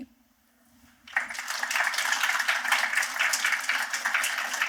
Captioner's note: applause